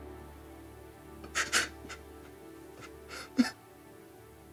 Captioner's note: Lance sobbing